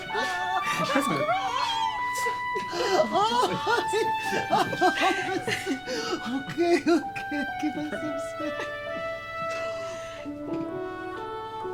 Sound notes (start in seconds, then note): 2.6 Evelyn laughing; 8.9 cheerful music